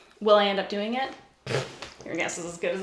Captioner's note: blows a raspberry